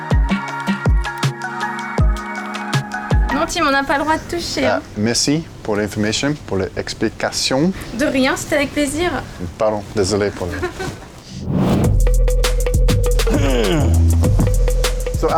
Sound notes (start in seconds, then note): 10.4 laughing; 11.8 upbeat music